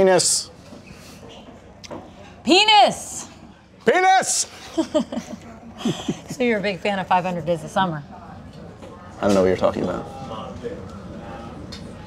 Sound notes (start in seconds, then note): 4.6 laughing